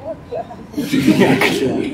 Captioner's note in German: lachen